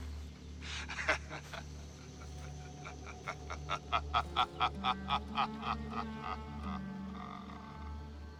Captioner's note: laughing